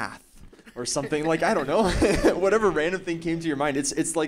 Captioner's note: laughing